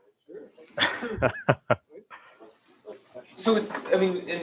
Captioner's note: laughs